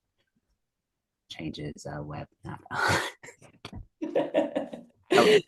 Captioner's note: laughs; laughing